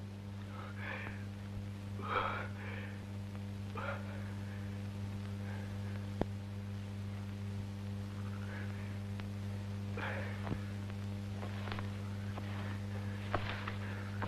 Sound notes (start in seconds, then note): 0.8 panting